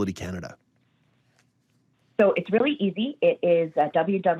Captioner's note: on phone